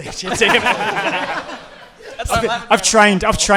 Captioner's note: audience and hosts laughing